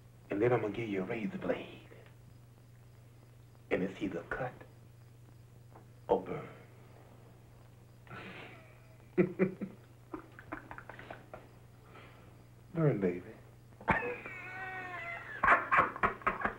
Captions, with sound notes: and then I'm gonna give you a razor blade and it's either cut or burn. (laughs) Burn baby. (laughs)